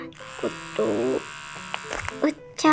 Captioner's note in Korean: 위잉